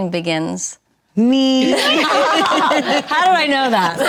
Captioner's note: group laughs